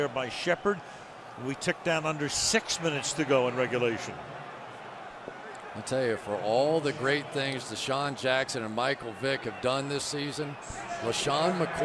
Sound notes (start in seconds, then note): none